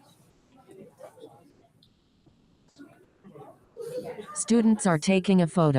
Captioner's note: people chatter indistinctly